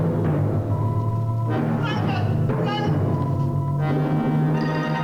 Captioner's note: Jamie yells